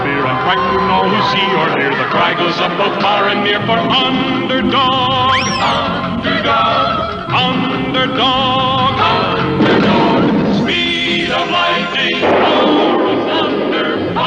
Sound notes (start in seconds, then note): 9.6 explosion; 12.1 lighting Strikes